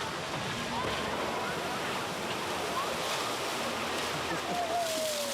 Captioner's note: water splashing